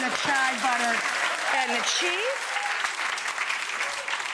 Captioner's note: audience clapping